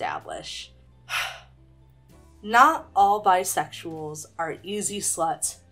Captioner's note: sighs